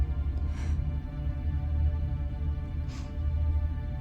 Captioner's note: sniffs heavy; exhales